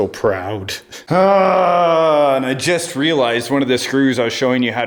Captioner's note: yelling